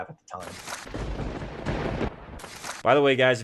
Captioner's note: thunder cracks